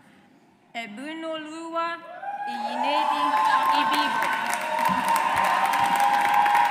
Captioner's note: audience applauds